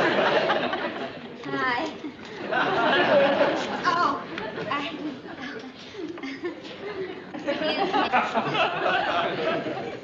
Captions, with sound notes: Hi. Oh, I-- ( GIGGLES ) Excuse me.